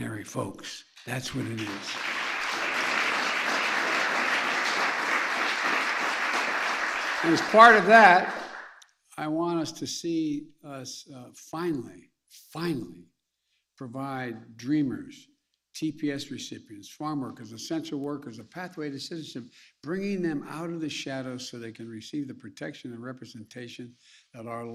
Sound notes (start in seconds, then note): 7.8 applause